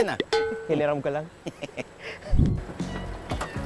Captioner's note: laughing